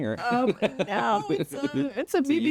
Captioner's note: laughs